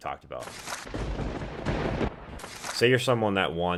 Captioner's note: thunder crackling